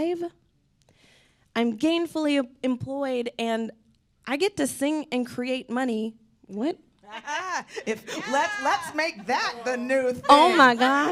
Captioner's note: laughing